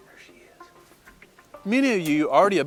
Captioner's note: whispering